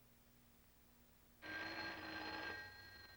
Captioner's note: phone ringing